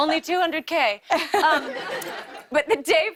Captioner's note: light laughter